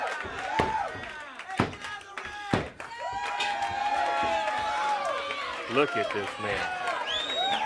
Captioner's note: crowd cheering